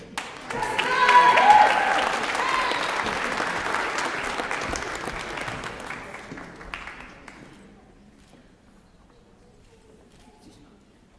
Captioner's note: applause